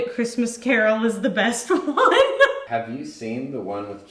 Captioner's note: laughs